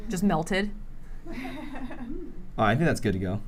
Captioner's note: laughter